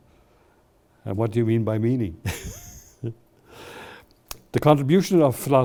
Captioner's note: laughs